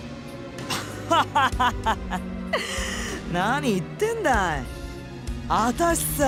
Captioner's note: laugh